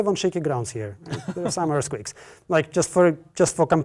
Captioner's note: laugh